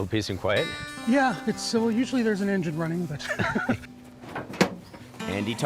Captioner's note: chuckles